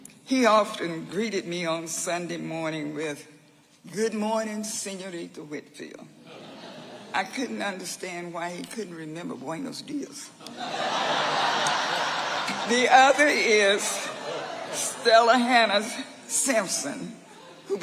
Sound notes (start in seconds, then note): 10.4 audience laughing